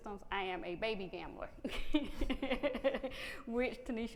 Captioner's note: laughing